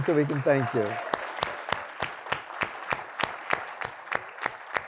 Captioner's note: applause